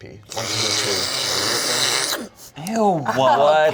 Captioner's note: slurping